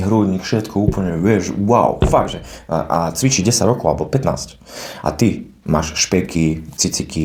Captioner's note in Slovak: smrkanie